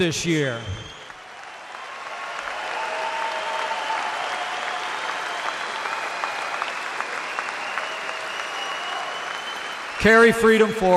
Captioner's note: applause